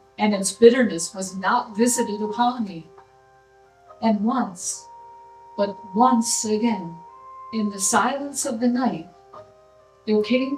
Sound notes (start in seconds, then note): none